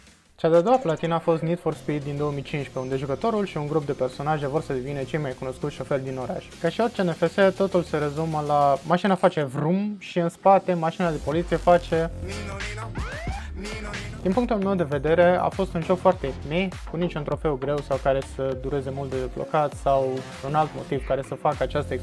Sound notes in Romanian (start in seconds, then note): 12.9 nino nino